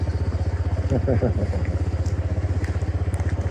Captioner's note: laughs